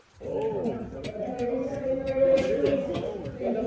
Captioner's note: announcer in background